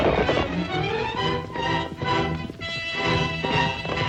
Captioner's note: hooves clomping